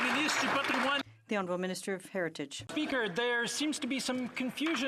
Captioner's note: some Applause